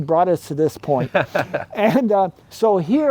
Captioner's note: laughing